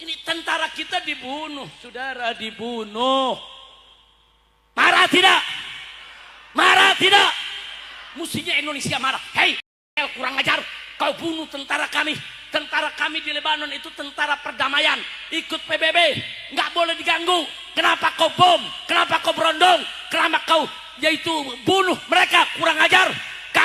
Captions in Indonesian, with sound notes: Ini tentara kita dibunuh, Saudara. Dibunuh. Marah tidak? Marah [berteriak] tidak? Mestinya Indonesia marah. Hei, kurang ajar. Kau bunuh tentara kami. Tentara kami di Lebanon itu tentara perdamaian. Ikut PBB enggak boleh diganggu. Kenapa kau bom? Kenapa kau berondong? Kenapa kau yaitu bunuh mereka? Kurang ajar.